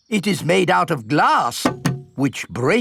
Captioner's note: knocks